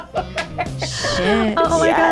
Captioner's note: laughing